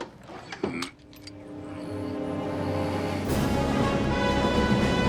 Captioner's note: groans